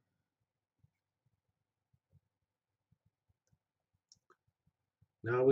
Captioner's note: pause